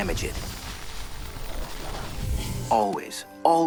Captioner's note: magical buzzing